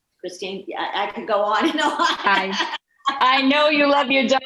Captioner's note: laughing